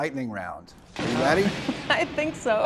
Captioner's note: thunder rumbling